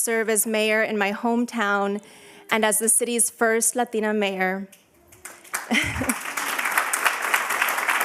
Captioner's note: applause